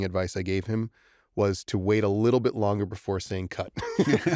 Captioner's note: laughter